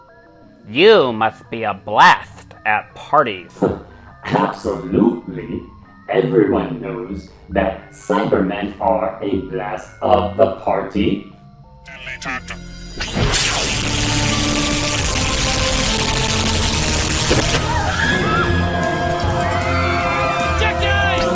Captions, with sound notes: "You must be a blast at parties." *Chuckle* Absolutely! Everyone knows that Cybermen are a blast of the party. Cyberman - "Deleted" *Screaming*